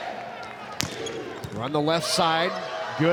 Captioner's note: ball thumping